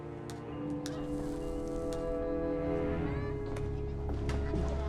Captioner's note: distant chattering